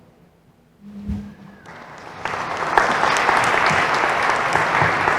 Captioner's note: applause